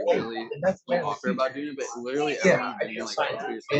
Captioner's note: laughs